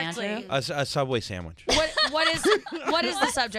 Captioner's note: laughing